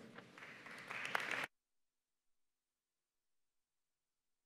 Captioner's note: audience applauding